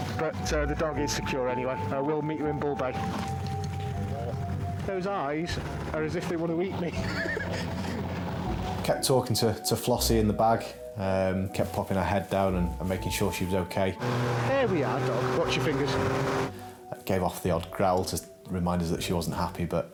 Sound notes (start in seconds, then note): 6.8 laughs